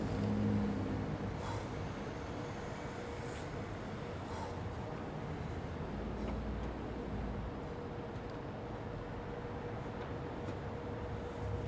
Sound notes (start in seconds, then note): 5.9 traffic hums faintly